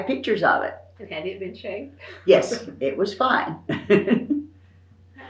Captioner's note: laughs